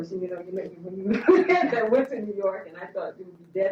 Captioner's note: laughing